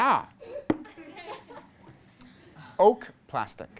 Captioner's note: class laughs